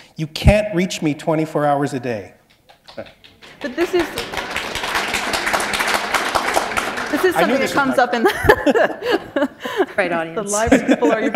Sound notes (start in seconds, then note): 2.6 applause; 5.8 laughter